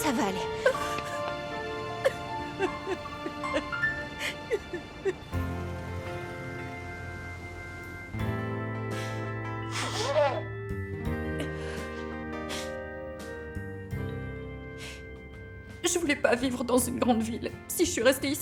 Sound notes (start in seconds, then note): 3.8 sobbing; 8.8 sniffling